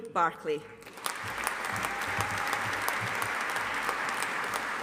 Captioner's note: audience applauding